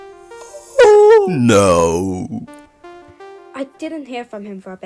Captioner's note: sigh; narrating